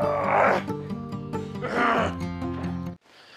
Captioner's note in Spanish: gruñe